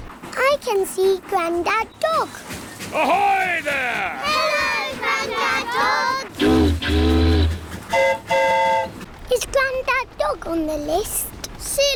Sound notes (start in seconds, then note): 7.8 train horn toots; 7.9 boat horn honks